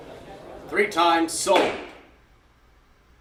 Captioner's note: gavel knock